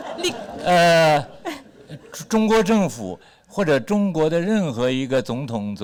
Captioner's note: speaks Mandarin